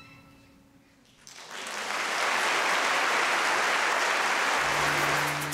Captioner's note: applause